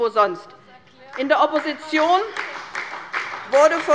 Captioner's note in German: Beifall bei Abgeordneten der SPD